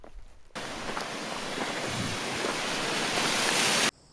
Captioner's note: rushing water